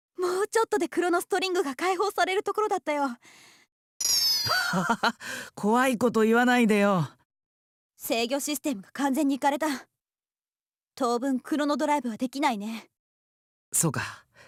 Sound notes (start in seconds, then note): 4.4 awkward laugh